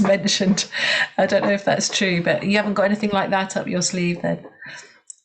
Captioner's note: laughs